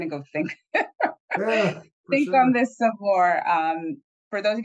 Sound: laughs

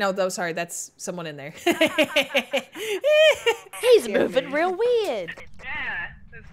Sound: laugh

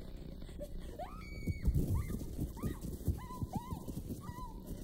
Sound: GT screams

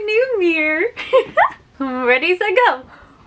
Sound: laughs

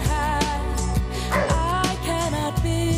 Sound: dog barks

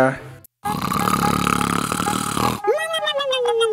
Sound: snores

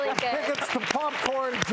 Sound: cheering and clapping; laughing

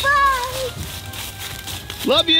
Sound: footsteps rustle

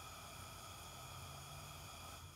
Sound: gas hissing

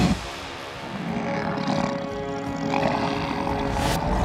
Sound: growling

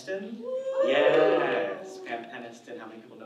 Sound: audience cheers

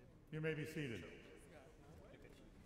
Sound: voiceover

